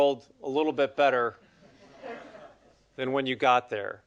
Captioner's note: audience laughing